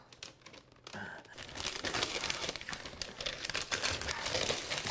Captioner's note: paper crackling